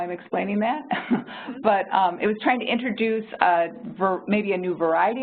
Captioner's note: laughs